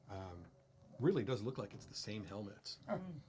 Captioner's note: quietly